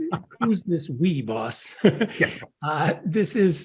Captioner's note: laugh